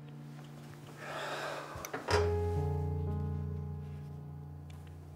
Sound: Josiah exhaling

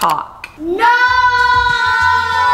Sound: children in Unison

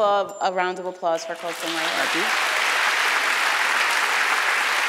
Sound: applause

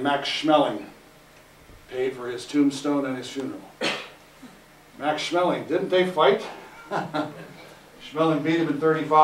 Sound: laugh

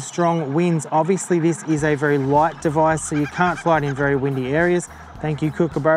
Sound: kookaburras cackle

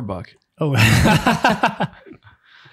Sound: laughing

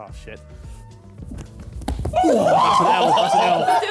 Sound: Harry plops; cackling loudly

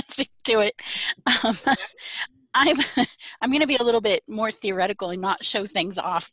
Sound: chuckles

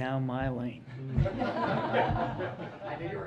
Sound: laughter

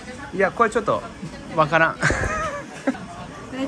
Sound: laughs

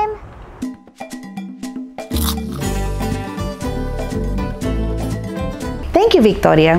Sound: chips crunching; upbeat music

